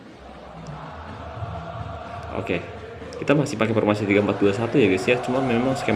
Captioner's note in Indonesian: bersorak